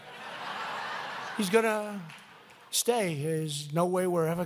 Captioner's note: laughter